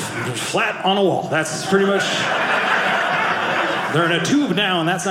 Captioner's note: audience laughing